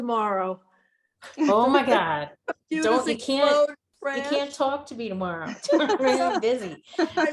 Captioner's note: laughing